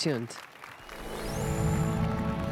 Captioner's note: applause and cheers